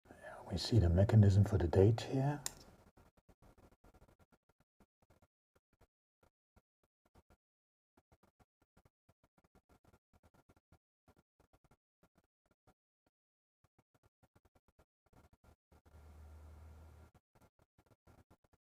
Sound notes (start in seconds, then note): 2.9 silence